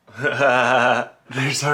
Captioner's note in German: lacht